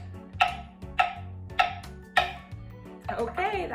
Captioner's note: chopping